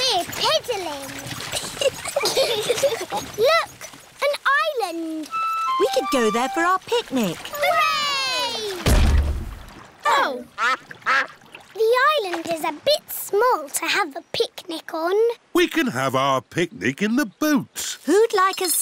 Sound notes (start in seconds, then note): 1.5 both giggle; 8.2 peppa and george cheer; 8.8 thud